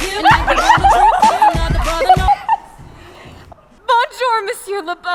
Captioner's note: both laughing